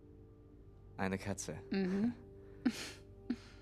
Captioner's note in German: gluckst